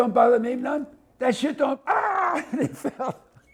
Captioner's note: groans